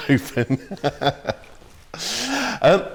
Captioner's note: laughs